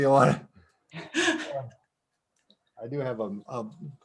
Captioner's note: chuckling